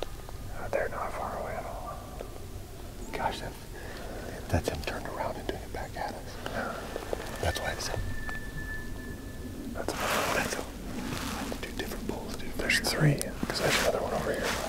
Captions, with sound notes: They're not far away at all. Gosh, if. That's him turning around and doing it back at us. Yeah that's why it sounds... (Elk bugling) That's two different bulls dude. There's three, because there's another one over here.